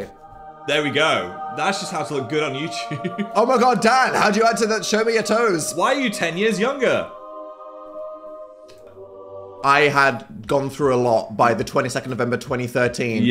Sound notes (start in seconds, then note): 0.1 glorious music; 2.7 laughs